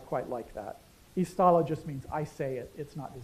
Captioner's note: non-english